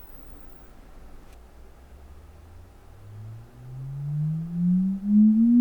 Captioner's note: frequency sweep